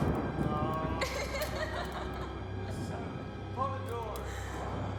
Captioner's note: Claire laughs